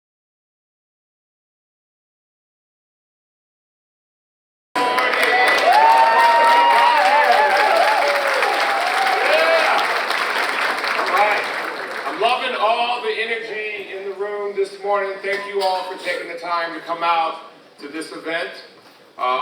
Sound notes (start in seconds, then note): 4.7 crowds cheering loudly; 9.8 audience applauds